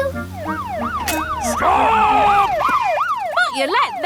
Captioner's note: siren wailing